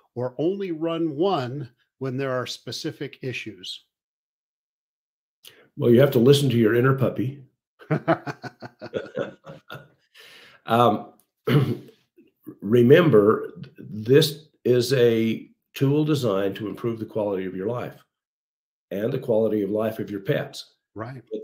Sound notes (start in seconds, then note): 7.8 laugh